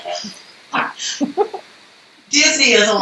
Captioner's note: both laughing